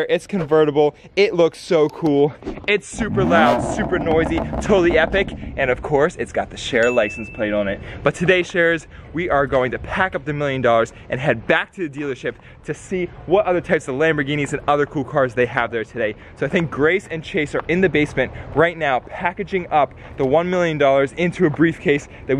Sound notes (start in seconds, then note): 2.9 engine revving; 6.8 bell ringing